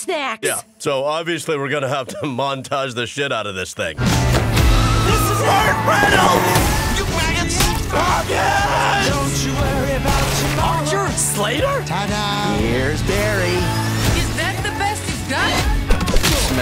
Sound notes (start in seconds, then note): 4.5 rock music; 8.0 yells; 9.0 singing